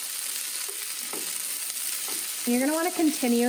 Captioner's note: sizzling